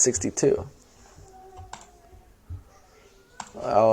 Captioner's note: near Silence